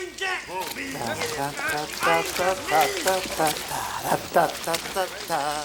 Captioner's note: Bruto yells in Spanish; Crecencio hums melodically